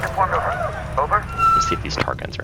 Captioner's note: crew chatter